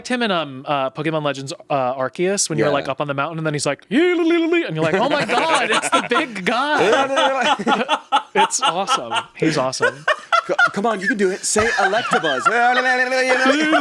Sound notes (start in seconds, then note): 4.3 makes silly sound; 7.0 laughs; 10.0 cackles; 12.7 makes silly sound